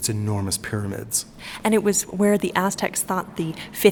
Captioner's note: voiceover